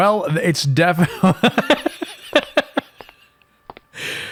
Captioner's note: chuckle-wheeze